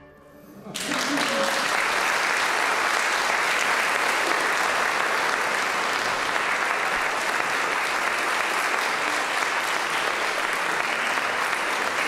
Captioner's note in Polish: Aplauz